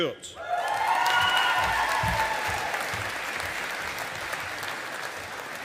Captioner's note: audience applauding